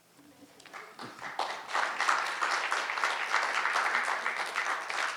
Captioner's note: audience applauding